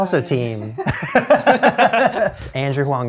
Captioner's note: both laughing